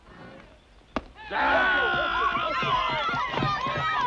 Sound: cheering

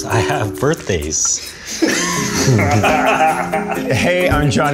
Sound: laughter

